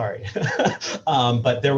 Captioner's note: laughs